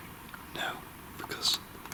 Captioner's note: speaking faintly